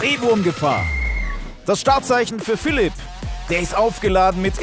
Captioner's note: Pfiff